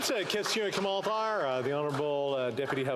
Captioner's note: some Applause